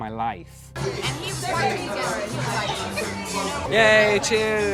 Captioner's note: group chatting loudly